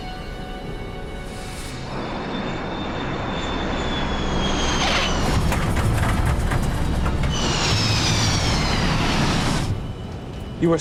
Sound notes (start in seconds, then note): 5.3 thudding; 7.0 humming